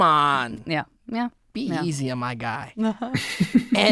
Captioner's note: laughing